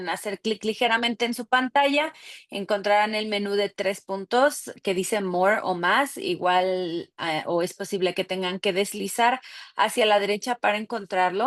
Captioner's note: speaking Spanish